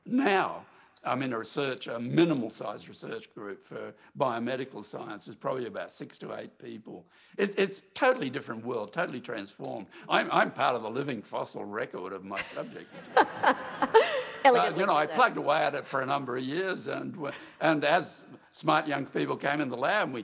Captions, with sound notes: Now I'm in a minimal size research group for biomedical science. It's probably about six to eight people. It's a totally different world, totally transformed. I'm part of the living fossil record of my subject. [LAUGHTER] Elegantly said. I plugged away at it for a number of years. And as smart young people came in the lab